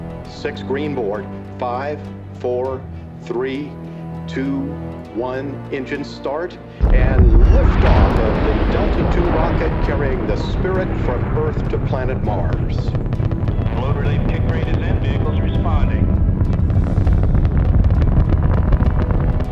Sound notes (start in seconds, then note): 7.7 loud blast; 13.1 rocket roars